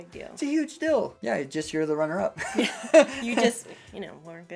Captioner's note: laughter